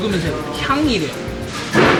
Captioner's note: sniff Sniff